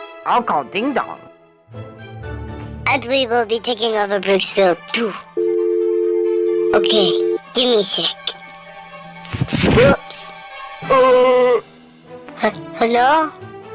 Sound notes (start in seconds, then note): 5.4 phone noises; 10.9 Timothy laughs